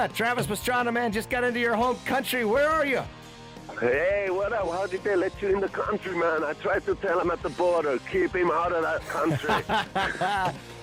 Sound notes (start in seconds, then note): 3.9 on phone